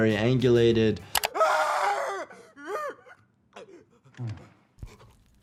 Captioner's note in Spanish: jugador gritando